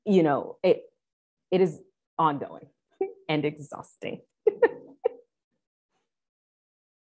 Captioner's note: chuckling